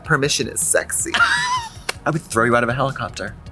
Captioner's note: Katya laughs